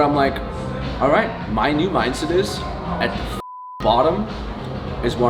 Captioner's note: beep